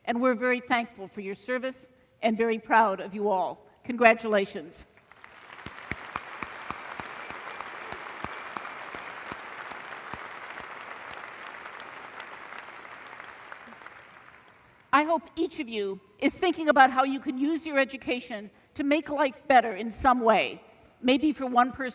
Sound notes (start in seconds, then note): 5.0 applause